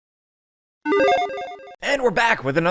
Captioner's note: retro beeping sound